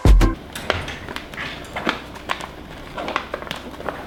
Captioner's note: paper rustling